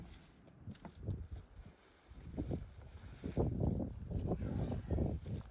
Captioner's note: wind blowing